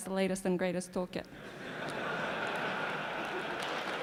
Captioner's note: laughter; applause